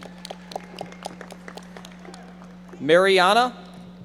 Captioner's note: audience members applauding